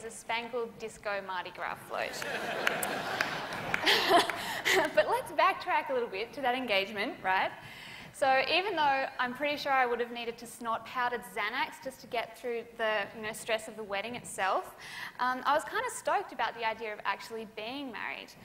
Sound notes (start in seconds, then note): 2.1 laughter; 2.1 laughs